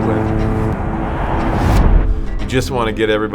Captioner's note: crowd cheering; timer blaring